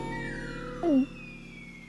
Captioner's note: gulps